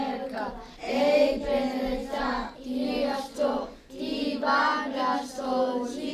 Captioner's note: students speaking Western Apache